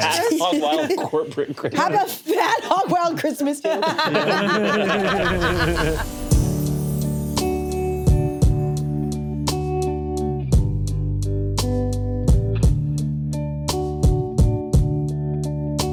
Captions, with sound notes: - Have a hog wild corporate Christmas. - Have a fat hog wild Christmas. (all laugh) (smooth music)